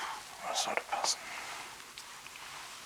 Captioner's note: whisper